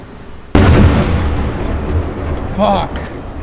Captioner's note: explosion sound